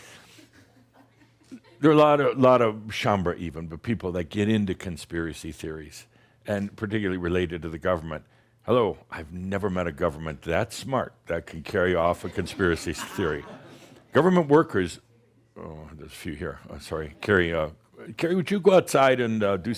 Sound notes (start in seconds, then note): 0.1 some giggles; 12.9 some chuckles